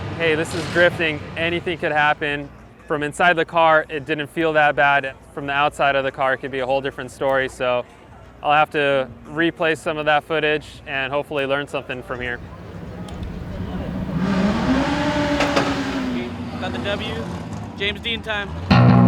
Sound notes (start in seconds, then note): 14.0 engines revving; 18.7 rock music